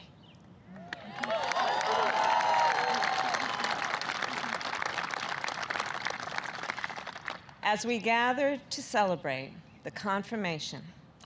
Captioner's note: applause